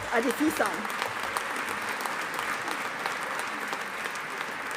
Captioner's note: audience applauding